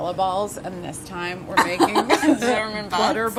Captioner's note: laughter